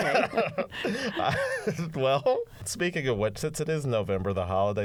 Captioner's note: laughter